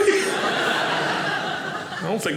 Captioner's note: audience laughing